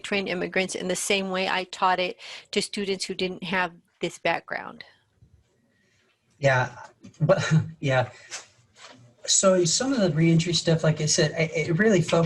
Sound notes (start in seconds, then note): 7.2 laughs